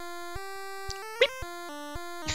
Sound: imitates the "bloop" that plays when the car turns

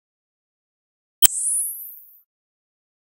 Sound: sound of ui zoom out

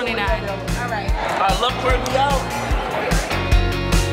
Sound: background conversations

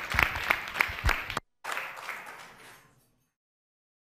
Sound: audience applauding

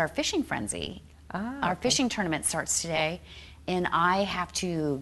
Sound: none

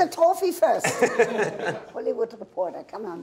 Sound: men laughing

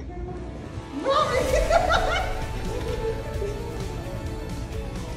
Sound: ecstatic laughter

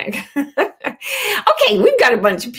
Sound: laughs

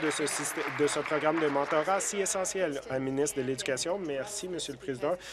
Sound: applause

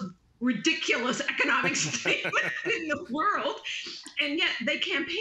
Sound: laughter

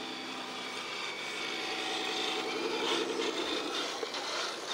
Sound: robotic sounds

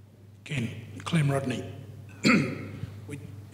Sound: clears throat

